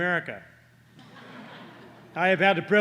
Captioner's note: laughter